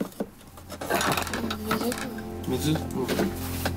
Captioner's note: man speaking native language